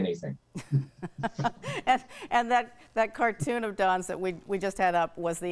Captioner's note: laughs